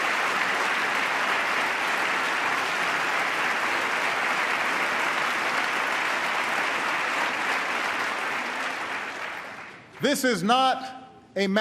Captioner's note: applause